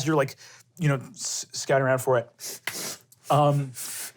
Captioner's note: sniffs